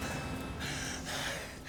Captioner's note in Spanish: Ruido metálico